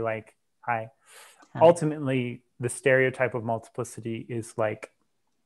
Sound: breath

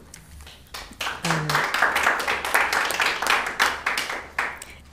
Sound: audience applauding

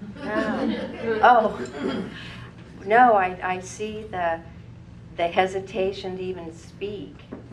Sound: laugh

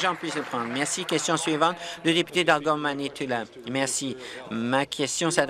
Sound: applause

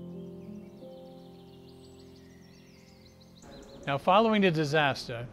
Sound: mysterious music; birds chirping

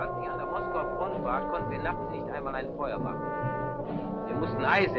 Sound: speaking in a foreign language

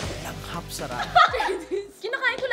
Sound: laughing; laughs

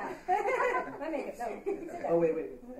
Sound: laughing

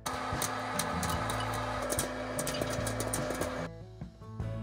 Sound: machine humming

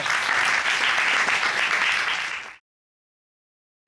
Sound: audience applauding

